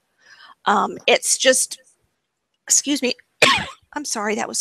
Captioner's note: cough